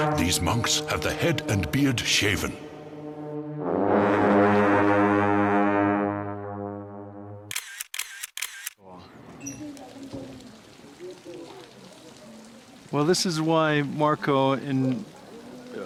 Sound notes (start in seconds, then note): 2.6 blowing horns; 7.5 camera clicking